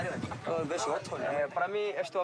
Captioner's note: Portuguese spoken audio